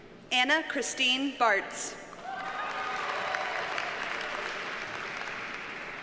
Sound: audience cheers and applauds

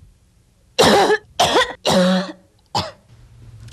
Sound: coughs

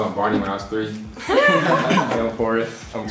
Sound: everyone laughs

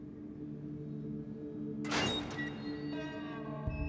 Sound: door slams

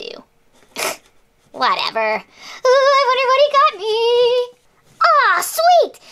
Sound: scoffs

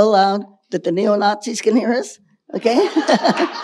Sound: audience laughing; laughs

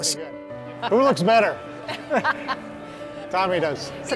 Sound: laughing

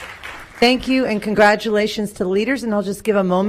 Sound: applause

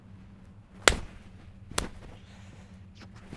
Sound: Ian slaps himself

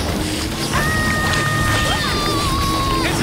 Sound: screaming

